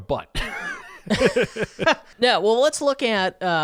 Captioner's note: laughing